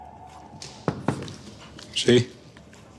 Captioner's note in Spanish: Toques en la puerta